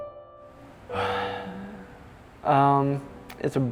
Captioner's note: sigh